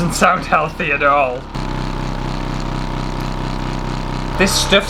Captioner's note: loud Motor Sounds